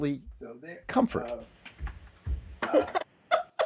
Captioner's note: laughter